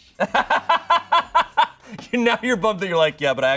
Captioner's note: laughs